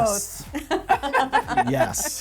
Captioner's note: laughing